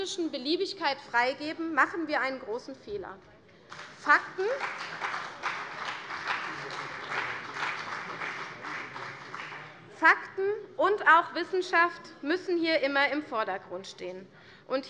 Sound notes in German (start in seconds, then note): 3.6 Beifall CDU